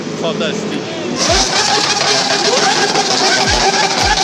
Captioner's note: engine roaring